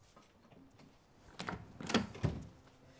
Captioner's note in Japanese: ドアが開く音